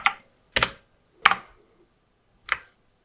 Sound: blank Audio

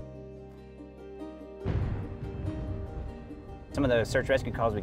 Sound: thunder crashing

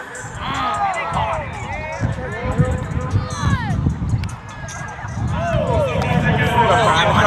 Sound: shouting And Cheering

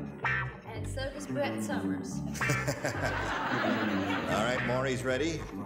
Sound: audience laughs

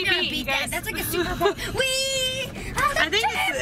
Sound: kids chattering

